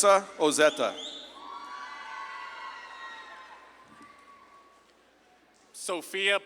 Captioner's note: audience claps and cheers